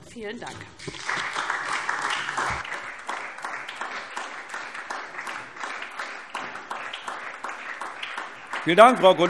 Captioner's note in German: Beifall SPD